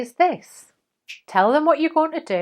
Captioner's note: fingers snap